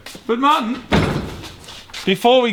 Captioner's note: thuds